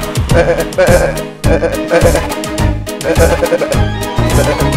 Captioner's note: goats singing